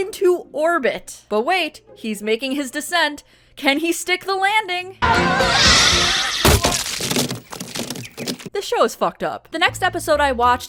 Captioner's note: splat